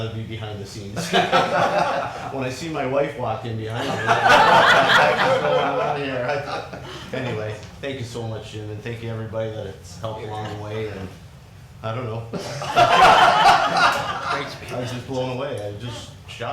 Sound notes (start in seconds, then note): 0.9 people laughing; 12.4 crowd laughing; 12.4 laughs